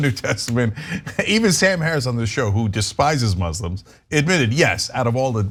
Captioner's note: laugh